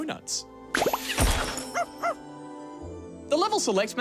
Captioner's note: dog barks